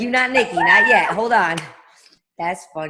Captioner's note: laughs